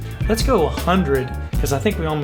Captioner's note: none